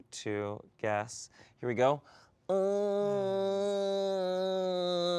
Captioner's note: groans